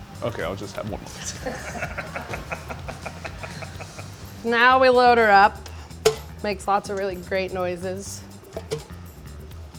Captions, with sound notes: - Okay, I'll just get one piece. (laugh) - Now we load her up. Makes a lot of great noises.